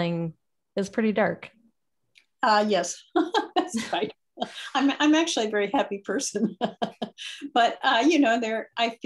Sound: laughs

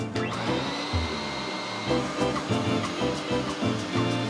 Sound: vacuum sucking

